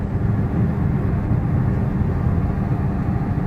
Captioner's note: engine noise, road noise